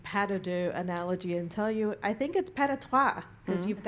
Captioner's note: french; french